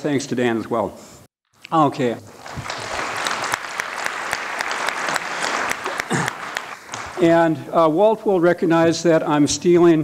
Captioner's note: applause